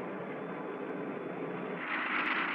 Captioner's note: none